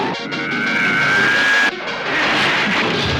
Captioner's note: zooming